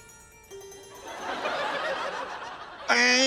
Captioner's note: intriguing music; laughter